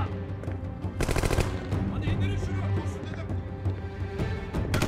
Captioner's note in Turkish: Silah sesleri